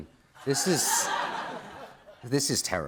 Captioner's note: laughter